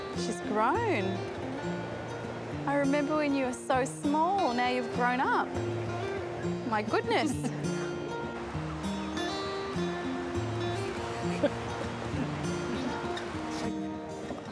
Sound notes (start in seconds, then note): 7.2 gentle laughter; 10.7 chuckling